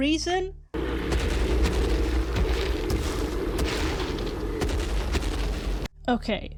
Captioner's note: dinosaur roars and stomps